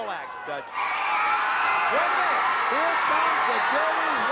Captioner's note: audience cheering